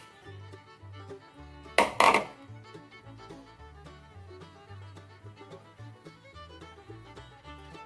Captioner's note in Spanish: ruido de envase que coloca en el mesón, mientras sigue amasando